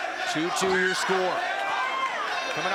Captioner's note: crowd cheering